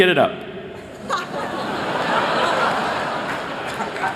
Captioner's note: laughter